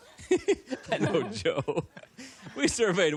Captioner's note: laughter